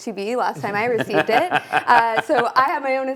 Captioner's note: laughing